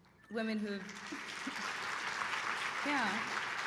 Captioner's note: applause